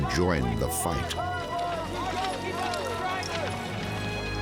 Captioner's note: soldiers shouting